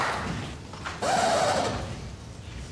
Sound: record scratch

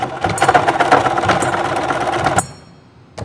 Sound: sound of sewing machine; sound of metal clamp

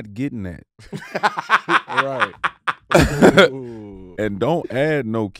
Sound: Jean laughing

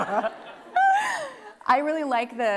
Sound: laughing

